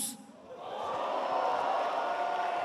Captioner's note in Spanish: Aplausos